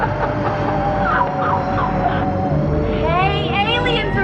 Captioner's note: laughs